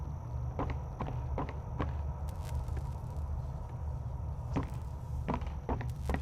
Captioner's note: footsteps